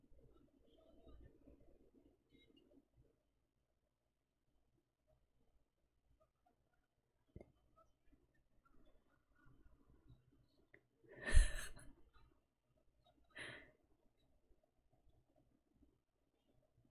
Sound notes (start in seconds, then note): 11.2 laughs